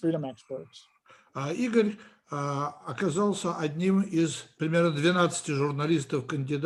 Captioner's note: translator speaking Russian language